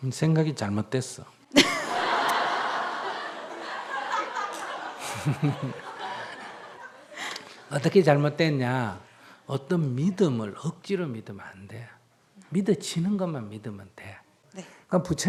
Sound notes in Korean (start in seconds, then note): 3.2 청중 웃음; 4.1 질문자 웃음